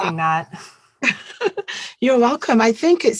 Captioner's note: chuckling